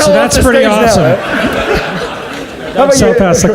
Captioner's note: audience laughs